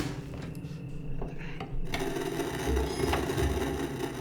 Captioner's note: VCR clicks; VCR whirs; object creaks upstairs; static buzzing